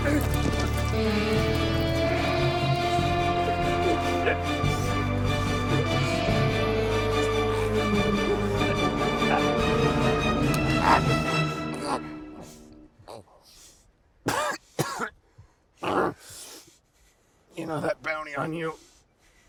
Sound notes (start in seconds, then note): 3.5 choking; 14.2 coughing